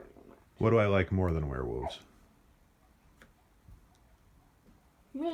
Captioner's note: silence